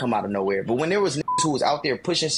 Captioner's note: beep